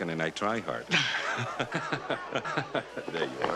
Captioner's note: both laughing